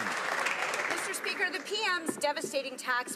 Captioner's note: applause